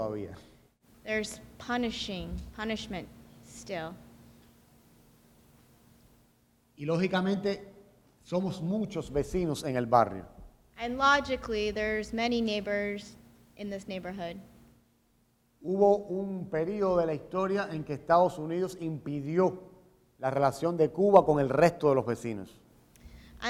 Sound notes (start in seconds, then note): 4.0 speaking in Spanish; 14.5 speaking in Spanish